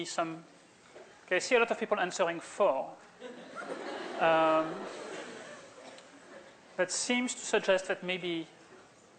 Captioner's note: laughter